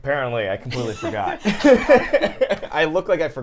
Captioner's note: laughing